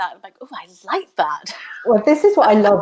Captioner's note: laughs